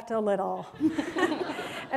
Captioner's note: laughter